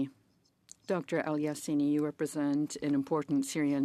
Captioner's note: speaking French